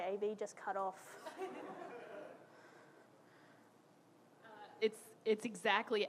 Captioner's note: audience laughing